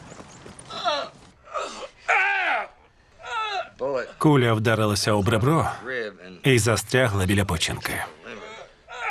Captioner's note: man wincing and screaming